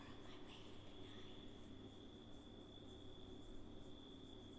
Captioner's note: whispers; crickets chirp